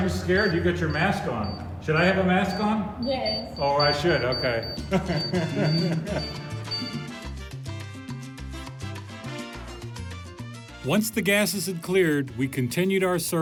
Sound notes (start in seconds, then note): 4.5 laughing; 7.0 lively Latin music